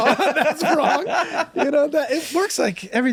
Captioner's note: group laughs